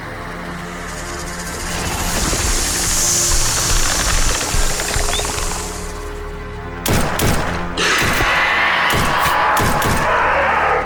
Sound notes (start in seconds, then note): 0.6 snake rattles; 1.3 snake hisses; 6.8 gunfire popping; 8.0 snake growls